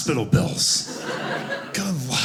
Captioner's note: audience laughing